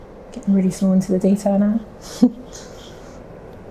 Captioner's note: chuckles